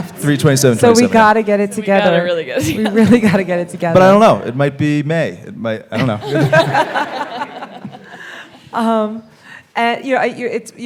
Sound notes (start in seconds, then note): 6.0 all laughing